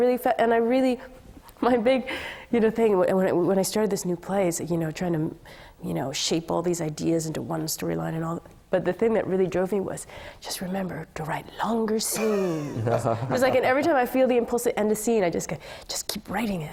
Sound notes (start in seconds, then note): 12.1 laughter